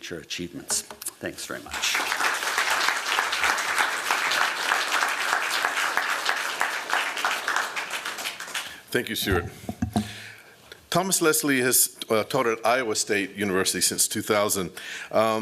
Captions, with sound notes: achievements. Thanks very much. [applause] Thank you, Stuart. Thomas Leslie has taught at Iowa State University since 2000.